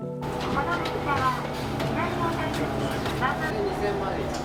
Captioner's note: people chattering